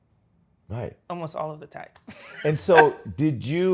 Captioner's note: laughs